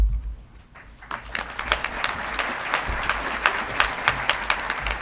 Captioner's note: audience clapping